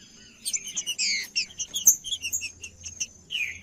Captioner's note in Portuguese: trinca ferro cantando